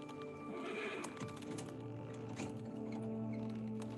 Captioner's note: horse neighs; gentle music